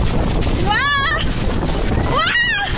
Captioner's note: screaming